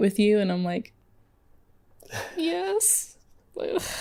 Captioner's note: laughing